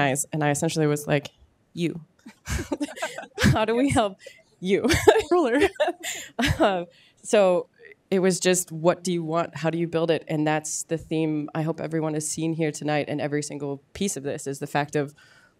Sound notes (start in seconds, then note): 4.8 laughs